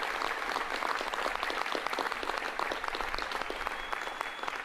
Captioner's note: applause